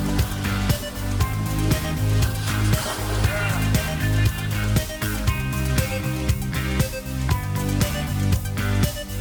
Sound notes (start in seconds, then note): 2.7 water splashing